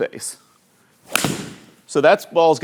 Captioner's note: ball cracking